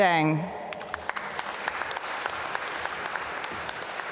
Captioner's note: applause